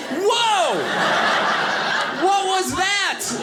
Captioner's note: audience laughing